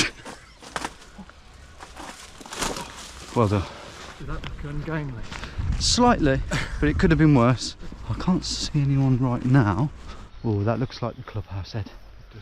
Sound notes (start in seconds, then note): 0.0 sniggering; 2.6 feet stomping